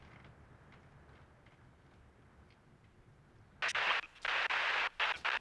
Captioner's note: radio staticing